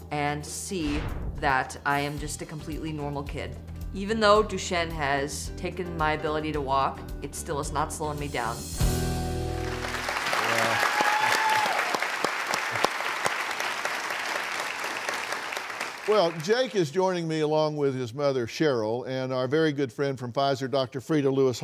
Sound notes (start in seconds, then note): 9.5 applauding